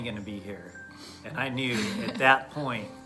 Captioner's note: chuckles